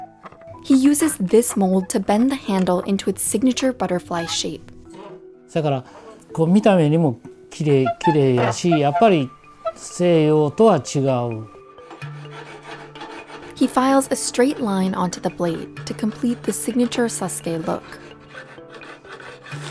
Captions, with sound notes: He uses this mold to bend the handle into its signature butterfly shape. (speaking foreign language) He files a straight line onto the blade to complete the signature Sasuke look.